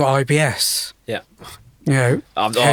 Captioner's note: scoffs